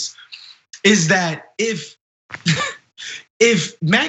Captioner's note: laugh